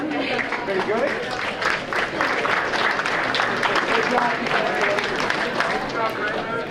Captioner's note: audience applauding